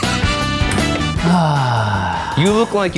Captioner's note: laughing maniacally; sighing loudly